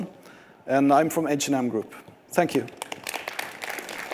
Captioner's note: applause